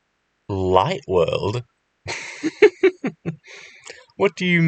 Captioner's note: laughter